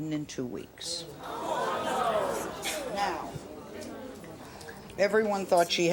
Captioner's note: audience murmurs